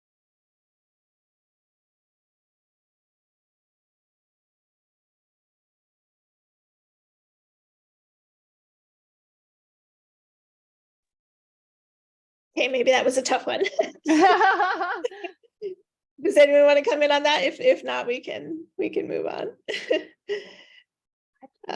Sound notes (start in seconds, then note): 13.5 laughing; 13.6 chuckles; 19.7 chuckles